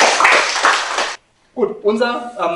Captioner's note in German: Applaus